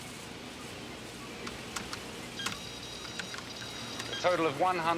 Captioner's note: keys clicking